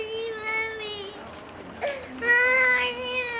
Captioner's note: Janey continues crying